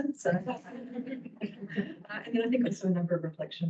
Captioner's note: all laugh